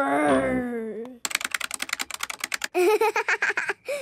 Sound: keyboard clicking

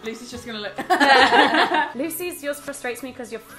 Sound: all laugh

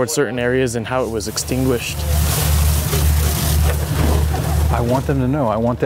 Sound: water spraying

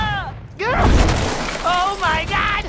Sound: shouting in concern; shattering of concrete

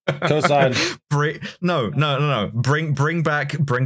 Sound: laughter

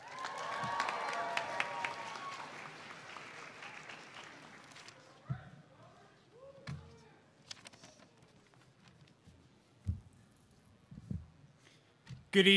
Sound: cheers

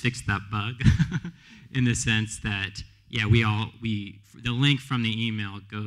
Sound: laughs

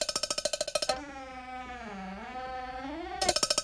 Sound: rattling; squeaking; rattling

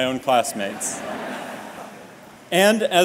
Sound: laughter

